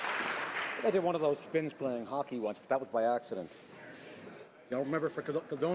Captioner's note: applause